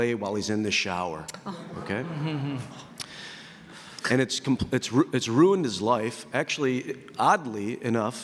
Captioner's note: audience reaction